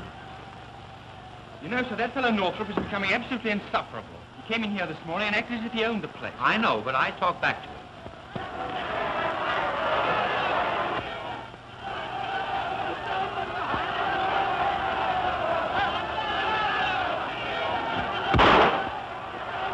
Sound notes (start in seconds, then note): 8.0 shouting; 16.8 gunshot